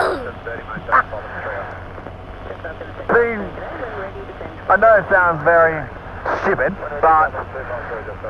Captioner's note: laughs